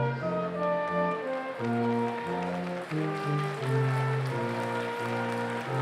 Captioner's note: applause